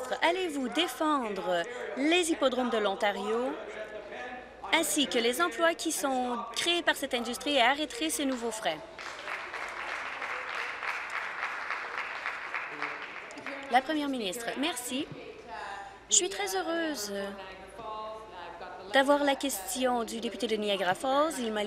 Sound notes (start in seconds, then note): 12.9 applause